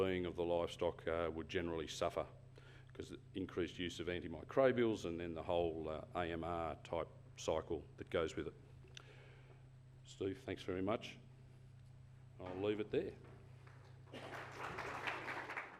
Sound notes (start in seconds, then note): 13.6 applause